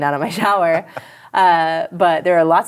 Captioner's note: laughter